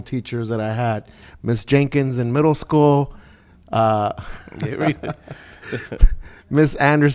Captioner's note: laughing